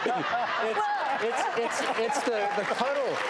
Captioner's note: audience laughs